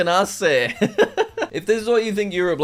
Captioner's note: laughs